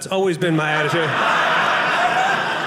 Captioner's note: audience laughing